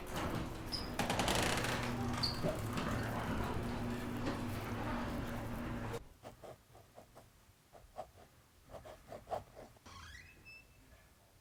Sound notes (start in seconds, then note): 0.0 door creaking; 6.2 pen scratching